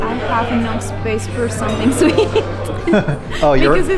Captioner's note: laughs